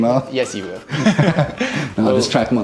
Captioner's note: both laughing